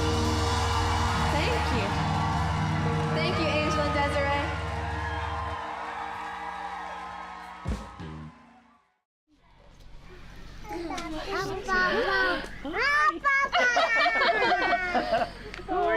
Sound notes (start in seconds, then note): 0.1 audience cheers and applause; 5.3 audience applause; 13.1 laughs